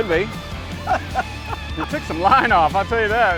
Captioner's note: laughing